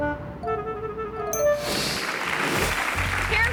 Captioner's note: screen whooshes; audience clapping